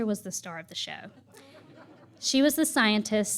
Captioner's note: laughter